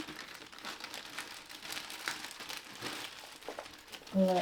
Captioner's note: bag rustling